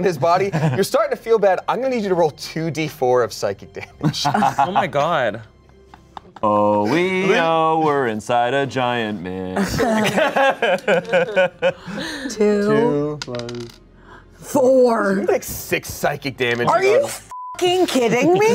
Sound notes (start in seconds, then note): 9.6 laughs; 17.3 beep